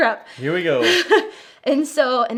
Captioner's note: chuckles